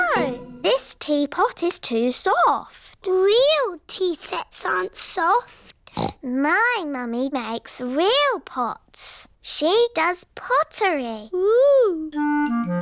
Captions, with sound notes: Oh! This teapot is too soft. Real tea sets aren't soft. (SNORTS) My mummy makes real pots. -She does pottery. -Whoo!